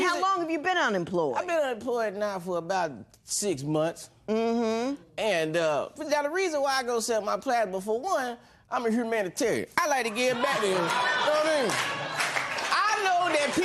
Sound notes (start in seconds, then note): 10.2 laughter